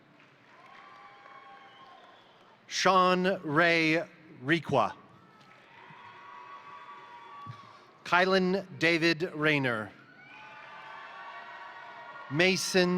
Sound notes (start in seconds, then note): 0.0 crowd applauding; 0.4 crowd cheering; 5.1 crowd cheering; 5.3 crowd applauding; 9.8 crowd cheering; 10.2 crowd applauding